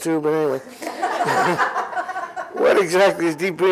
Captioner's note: laughter